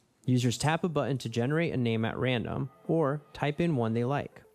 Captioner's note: none